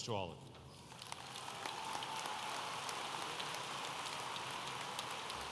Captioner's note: audience applauding